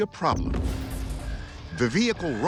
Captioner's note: alarm blaring